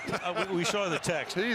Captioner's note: laughter